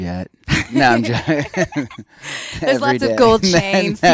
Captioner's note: laughs